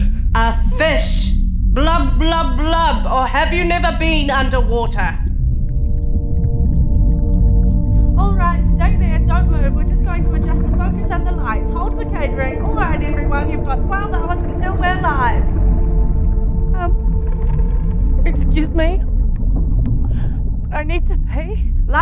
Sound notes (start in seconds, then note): 7.3 muffled, as though underwater